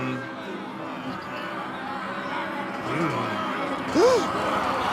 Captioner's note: angry crowd noise